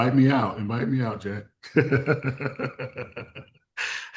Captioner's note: laughs